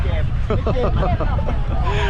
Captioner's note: laughter